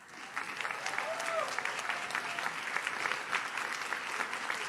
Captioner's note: audience cheers